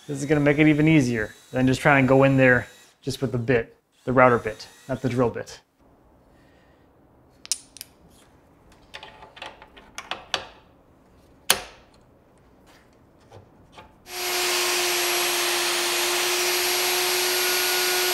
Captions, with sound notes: this is gonna make it even easier. Then just try and go in there just with the bit, the router bit, not the drill bit. (machine parts clanking) (machine whirring)